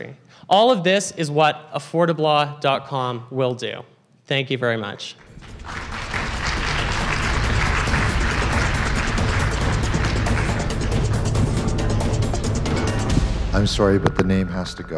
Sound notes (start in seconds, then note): 5.2 applause and background noise